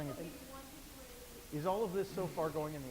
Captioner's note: voiceover